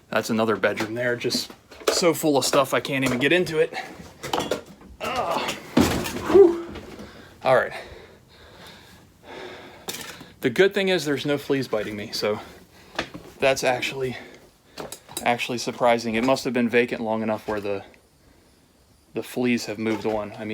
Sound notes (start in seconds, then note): 5.0 groaning